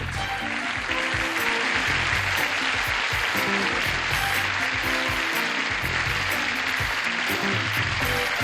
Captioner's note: applause